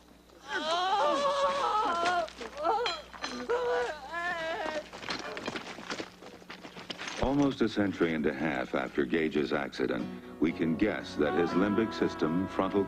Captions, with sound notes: [screams] Almost a century and a half after Gage's accident, we can guess that his limbic system, frontal